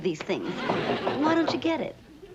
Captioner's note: knock on door